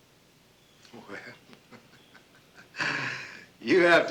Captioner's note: laughing